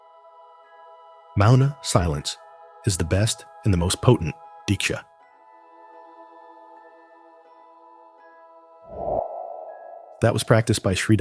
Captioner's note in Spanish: silencio